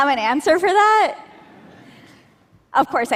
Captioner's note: laughter